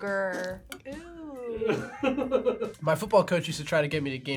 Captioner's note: laughs